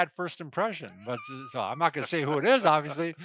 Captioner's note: chuckles